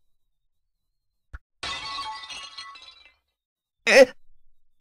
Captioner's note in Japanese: 何かが割れるような音：カラカシャーン･･･